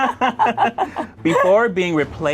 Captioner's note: laughs